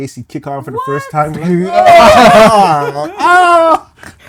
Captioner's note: screaming